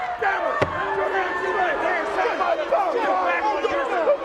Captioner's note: audience jeers